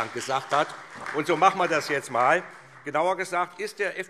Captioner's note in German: Beifall SPD